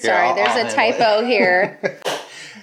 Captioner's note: laughing; hand clap